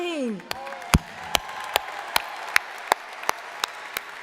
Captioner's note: crowd applauding